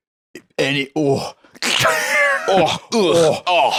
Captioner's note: laughs